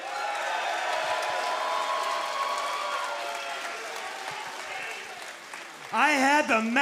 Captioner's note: crowd cheering